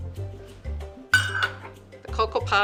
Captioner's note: clanking